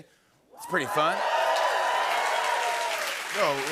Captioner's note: cheering and applause